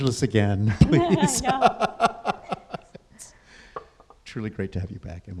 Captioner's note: laughs